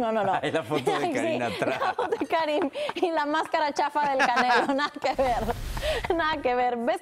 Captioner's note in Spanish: risas